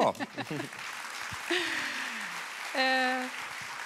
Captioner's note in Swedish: Publiken applåderar